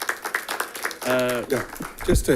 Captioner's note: audience applauding